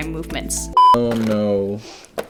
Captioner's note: beep